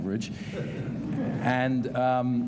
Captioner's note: laughter